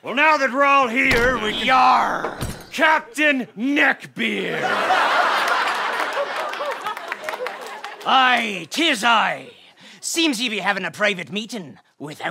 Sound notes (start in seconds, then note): 4.4 audience laughing